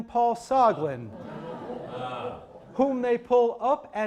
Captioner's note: audience exclaiming